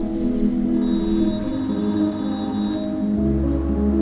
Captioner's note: phone rings